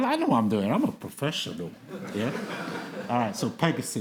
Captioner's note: audience laughing